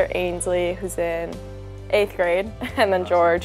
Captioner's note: laughing